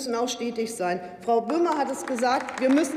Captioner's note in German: Beifall bei der LINKEN und dem BÜNDNIS 90/DIE GRÜNEN